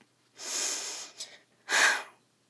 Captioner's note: breathes shakily